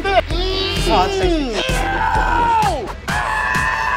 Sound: men yelling

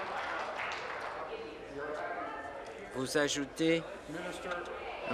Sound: applause

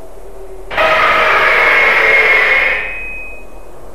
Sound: audible Whiney Little Brother

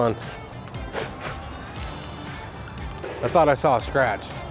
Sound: blowing noises

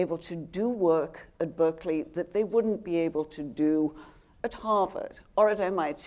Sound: none

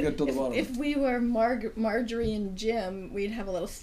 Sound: voiceover

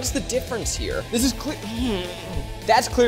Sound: groans

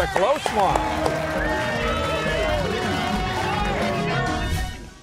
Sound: cheers and applause

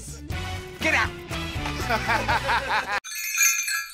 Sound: laughs

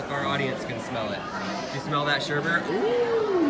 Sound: sniffs

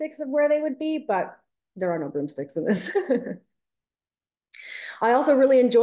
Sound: chuckles

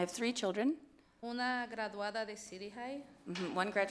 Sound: speaks foreign language

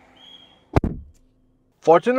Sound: door Thud

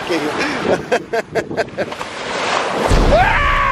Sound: laughing

